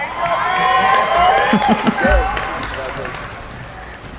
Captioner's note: applauding